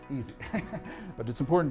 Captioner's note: laughing